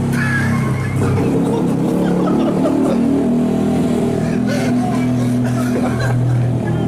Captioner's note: friend laughing